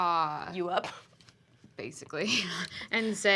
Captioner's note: laughs